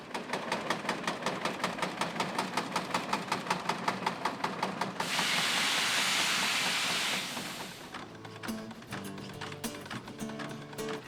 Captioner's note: steam Tractor Running